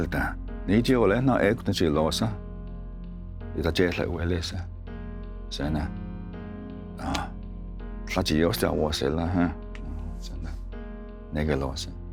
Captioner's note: tells story in Cherokee language